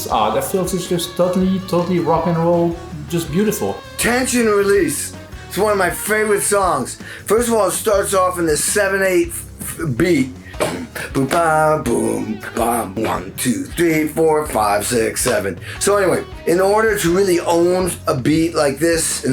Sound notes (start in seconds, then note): 10.5 drums on chest